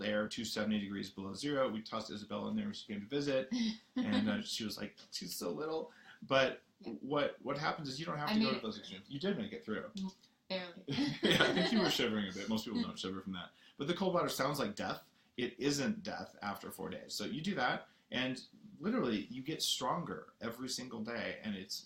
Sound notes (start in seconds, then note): 10.9 laughing